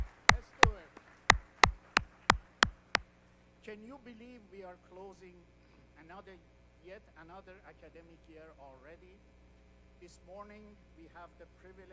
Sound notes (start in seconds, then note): 0.0 applause